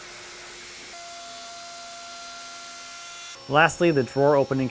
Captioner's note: high-speed machine whirring